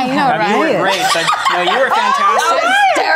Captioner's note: Ana laughs